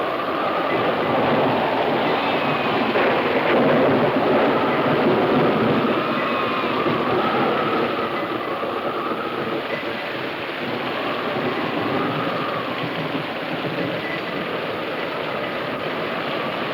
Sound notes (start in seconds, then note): 2.3 thunder claps